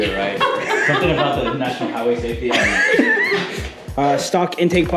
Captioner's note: laughing